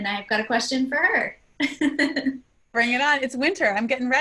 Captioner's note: laugh